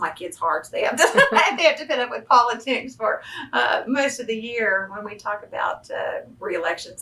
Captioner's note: laughs